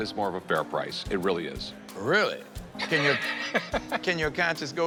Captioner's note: laughs